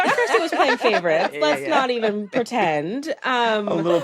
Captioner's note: laughter